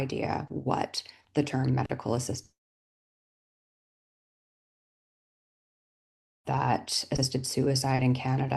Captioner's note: audio drops